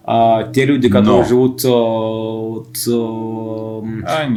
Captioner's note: speaks Georgian